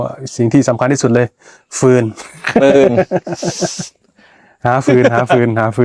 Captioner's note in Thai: เสียงหัวเราะ